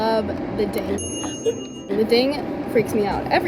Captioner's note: air fryer dinging